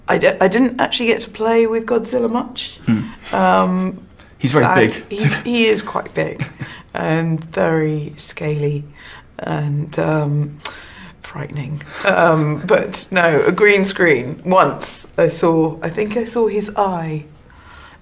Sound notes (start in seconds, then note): 4.6 laughs